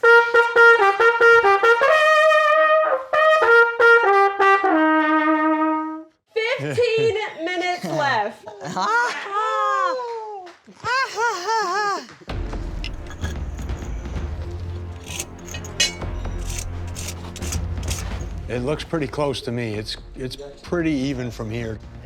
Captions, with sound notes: (trumpet sounds) (trumpet sounds) - 15 minutes left. (laughter) - It looks pretty close to me. It's pretty even from here.